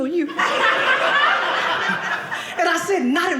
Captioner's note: audience laughing